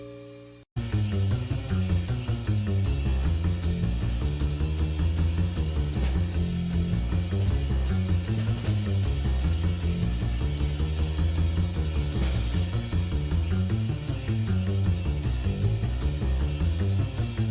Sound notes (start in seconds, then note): none